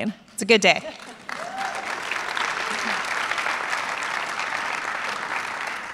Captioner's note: audience clapping